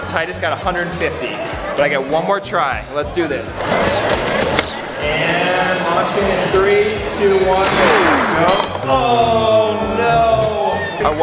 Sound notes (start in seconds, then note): 3.6 whooshing; 7.7 beeping